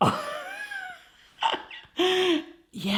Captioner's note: laughing